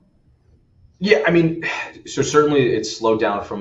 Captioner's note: sighs